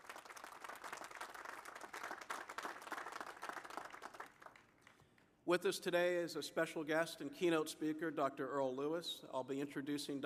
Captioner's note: applause